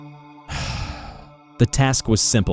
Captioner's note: sigh